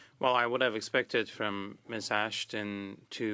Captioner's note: speaking French